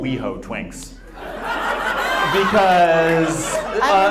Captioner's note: audience laughs